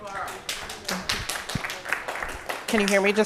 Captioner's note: applause